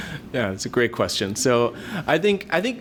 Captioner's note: laughs